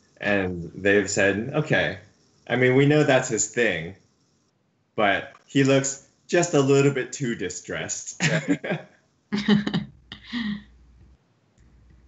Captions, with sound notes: and they've said okay. We know that's his thing, but he looks just a little bit too distressed. (laughs)